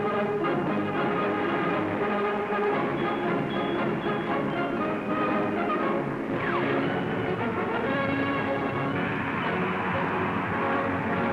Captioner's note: uplifting music; sounds of war